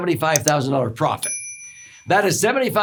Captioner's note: bell dinging